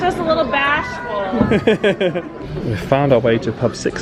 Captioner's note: chuckles